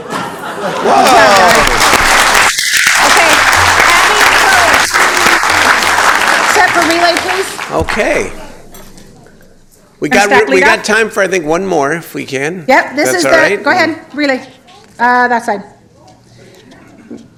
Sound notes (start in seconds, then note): 5.6 applause